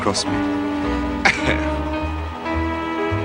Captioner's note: chuckles